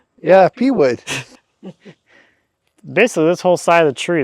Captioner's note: both laughing